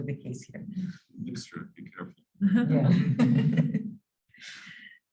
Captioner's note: laughing